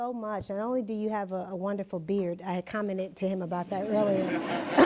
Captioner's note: laughter